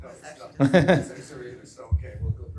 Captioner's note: laughter